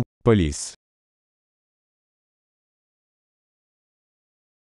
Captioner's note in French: silence